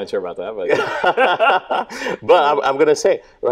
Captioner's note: both laughing